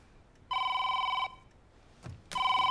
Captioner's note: phone ringing